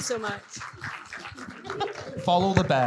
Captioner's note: everyone clapping; laughing